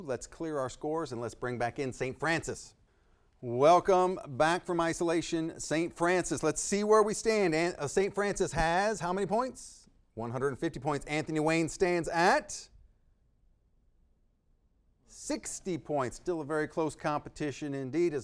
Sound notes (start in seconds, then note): none